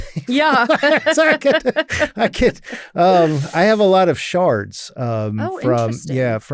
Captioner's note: laughs